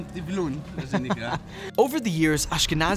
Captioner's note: interviewer laughs